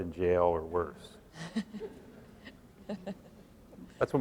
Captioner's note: laughs